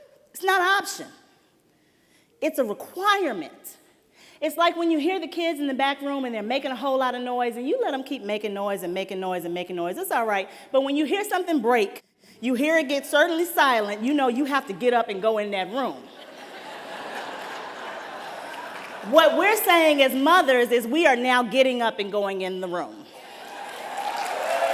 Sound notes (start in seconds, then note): 16.0 laughter